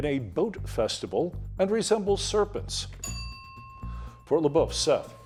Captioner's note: bell dinging